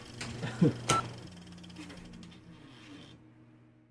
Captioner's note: laughing